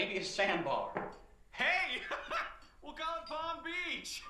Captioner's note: laughs